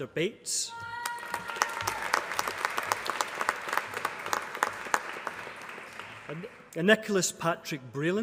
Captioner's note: applause